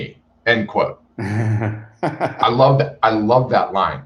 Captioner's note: laughter